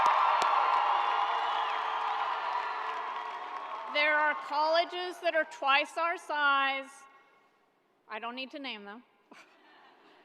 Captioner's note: cheering